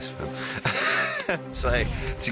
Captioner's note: laughs